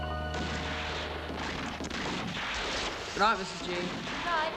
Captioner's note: gunfire on TV